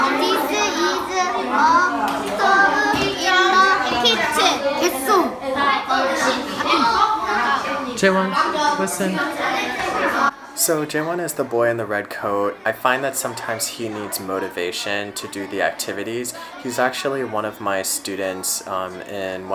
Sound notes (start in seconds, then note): 4.8 boy responds in Korean